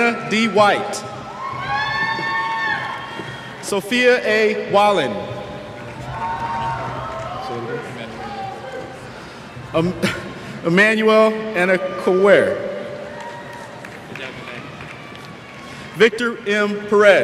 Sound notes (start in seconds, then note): 5.8 cheers; 11.6 cheers